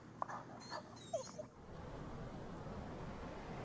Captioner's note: dog whines